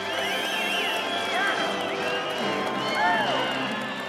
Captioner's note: audience applauding